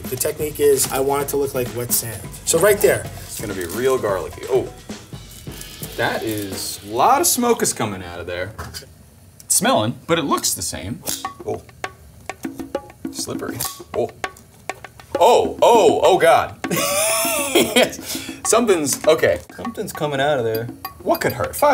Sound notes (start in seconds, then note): 13.5 tongs clank; 16.6 chuckles